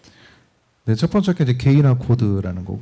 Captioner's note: speaking korean